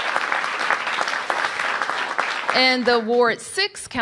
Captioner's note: applause